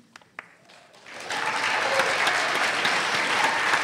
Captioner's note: applause